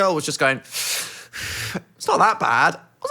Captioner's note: inhales